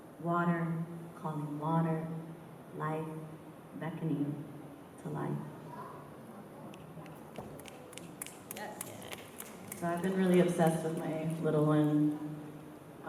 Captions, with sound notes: Water calling water, life beckoning to life." [APPLAUSE] So I've been really obsessed with my little one